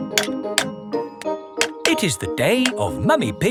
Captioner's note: clanking